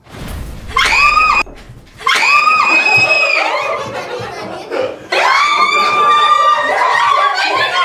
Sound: scream

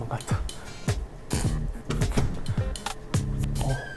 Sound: haha

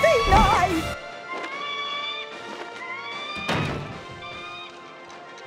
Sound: squawking

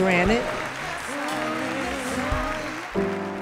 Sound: audience applauding

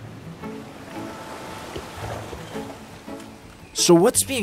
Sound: cheerful music; water gushing

